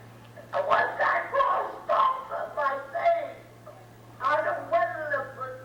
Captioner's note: murmurs